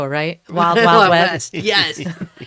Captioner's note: laughs